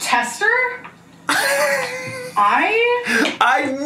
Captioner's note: laughs